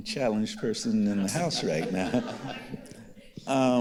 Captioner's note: others chuckling